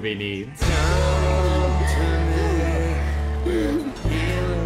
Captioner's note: breathing heavily